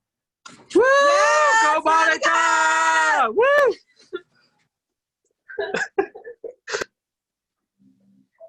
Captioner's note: cheering